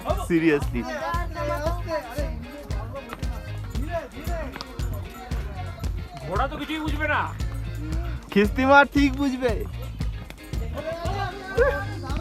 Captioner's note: laughs and Chatting